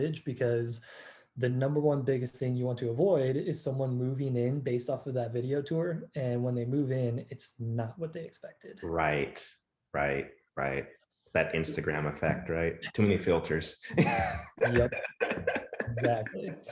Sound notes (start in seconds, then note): 13.8 laughing